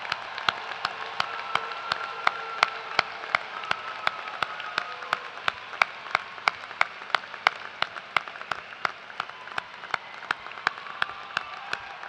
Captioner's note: cheers and applause